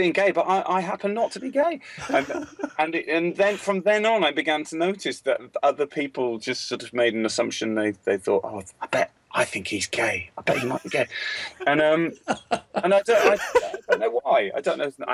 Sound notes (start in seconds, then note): 8.7 imitates whispering; 11.9 laughter